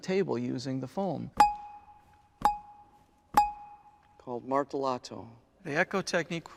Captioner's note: nats: bell hitting the foam 3 times